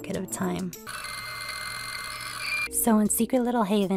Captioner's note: dial-Up Noise